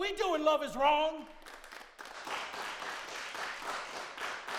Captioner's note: crowd clapping